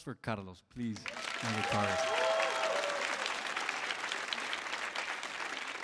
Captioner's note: audience applauds and cheers